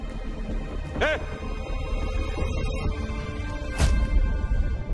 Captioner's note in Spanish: Exclamación